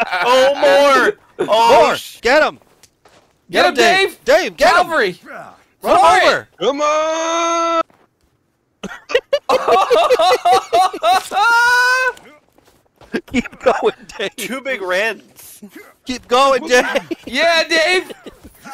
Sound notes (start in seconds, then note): 8.8 hysterical laughter